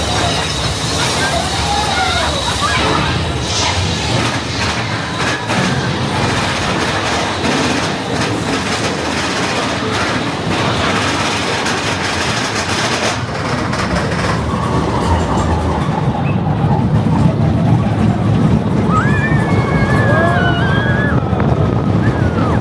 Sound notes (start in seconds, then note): 4.8 TNT charges cracking loudly; 14.4 air whooshing; 14.4 coaster rumbling; 19.5 guests screaming